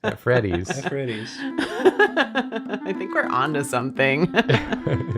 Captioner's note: laughs